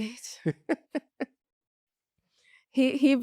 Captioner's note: laughs